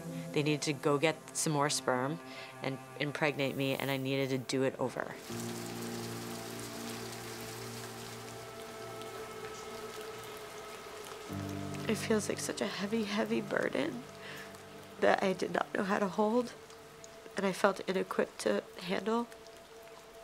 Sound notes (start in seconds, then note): 5.7 rain tapping; 5.7 soft ethereal music; 19.2 soft instrumental music; 20.0 rain tapping